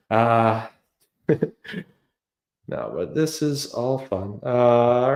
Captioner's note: chuckles